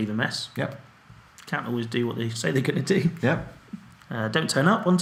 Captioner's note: laughs